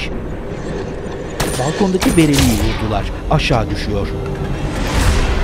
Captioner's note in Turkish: Silah sesleri